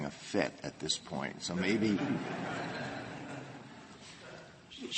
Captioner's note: laughter